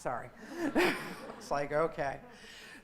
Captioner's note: laughing